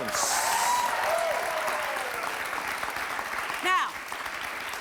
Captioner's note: audience applauds